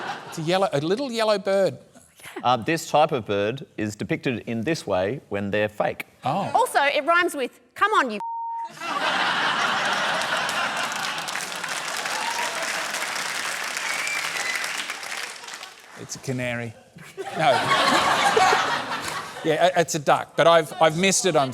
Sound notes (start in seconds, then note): 8.7 laughter and applause; 17.0 laughter